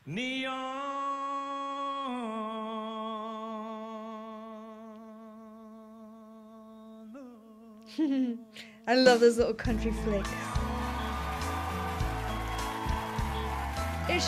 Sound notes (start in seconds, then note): 7.8 giggles; 11.5 applause